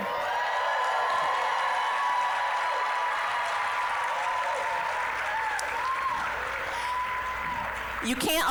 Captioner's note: applause, cheering